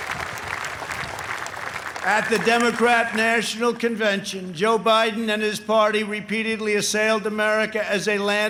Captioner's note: applause